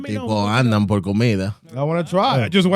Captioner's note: speaking In Foreign Language